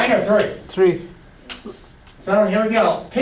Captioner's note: voiceover